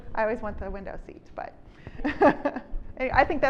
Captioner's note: chuckles